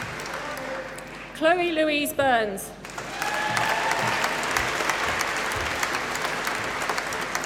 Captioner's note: applause